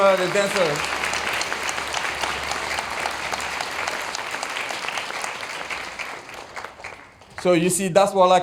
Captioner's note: applause